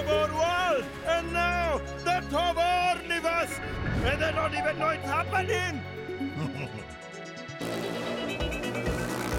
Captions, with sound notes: And now, The Toborniverse! And they don't even know it's happening! (chuckling)